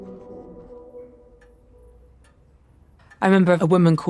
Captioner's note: clock ticking